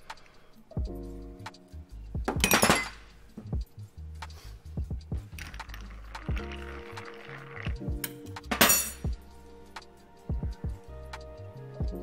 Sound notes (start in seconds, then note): 0.2 calming music; 2.4 knife clanking; 5.5 calming music